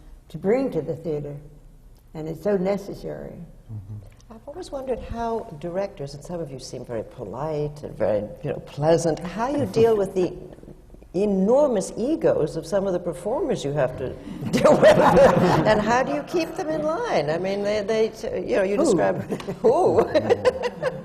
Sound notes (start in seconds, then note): 14.4 laughter; 19.1 laughter